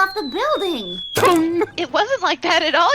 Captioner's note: clang